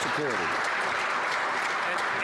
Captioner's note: some Applause